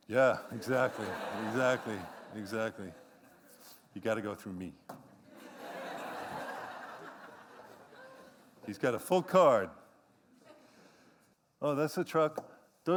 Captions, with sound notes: Yeah, exactly, exactly, exactly. You've got to go through me. [LAUGHTER] He's got a full card. Oh, that's the truck.